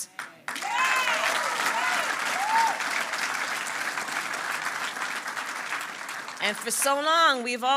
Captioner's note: applause